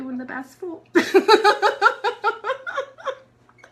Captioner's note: laughs